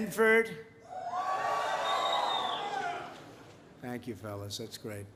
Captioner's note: applause